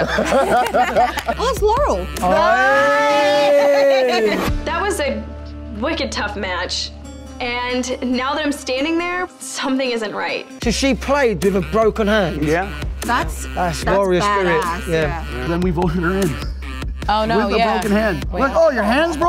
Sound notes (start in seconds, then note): 0.0 all laughing; 2.2 cheering together